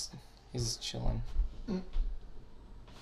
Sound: moan

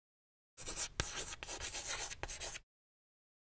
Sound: chalk scratching

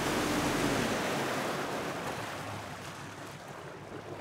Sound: boat engine running

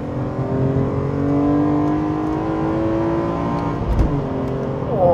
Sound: car engine revving loudly

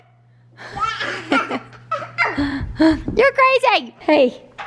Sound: laughs

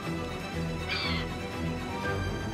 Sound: screeches

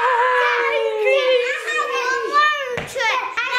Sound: kids yelling

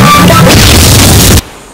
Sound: cue explosion

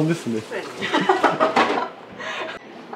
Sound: laughs

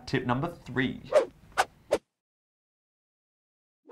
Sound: swiping

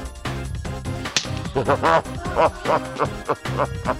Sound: laughs

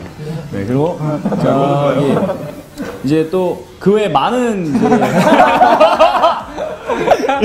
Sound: members laughing

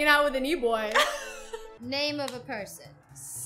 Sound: laughs

